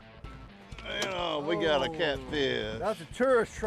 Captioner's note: laughing